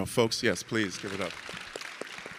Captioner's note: audience clapping